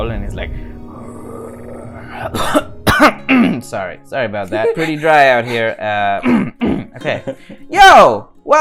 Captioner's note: cough; clears throat